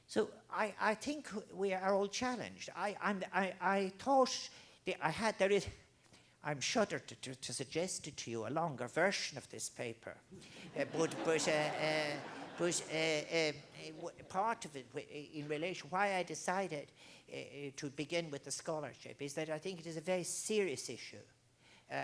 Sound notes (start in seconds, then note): 10.4 crowd Laughing